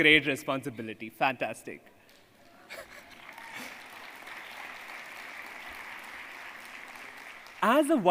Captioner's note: applause